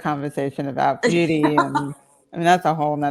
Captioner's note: laughs